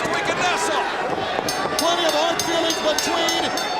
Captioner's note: bell ringing